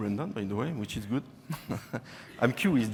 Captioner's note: laughing